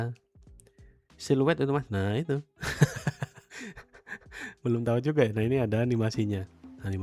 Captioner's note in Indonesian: tertawa